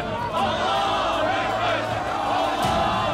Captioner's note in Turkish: Hep bir ağızdan